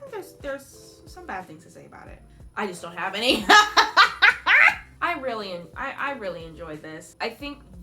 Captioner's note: laugh